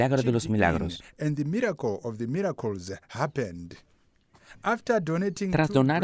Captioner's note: Hablando otro idioma